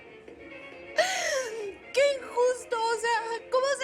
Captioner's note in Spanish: Sollozos